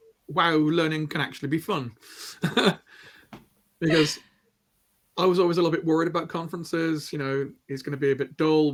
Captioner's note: laughter